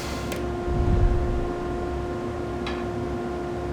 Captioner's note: air whooshes